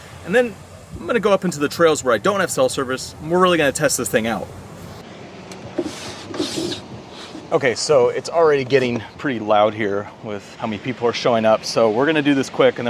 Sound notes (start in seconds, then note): 5.8 gear rustling; 5.8 ocean whooshing